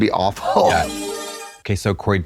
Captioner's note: bright chime